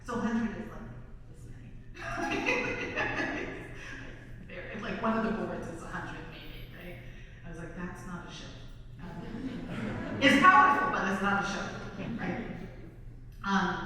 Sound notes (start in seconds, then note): 2.0 laughs; 9.0 audience laughs